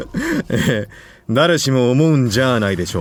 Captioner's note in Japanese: 笑い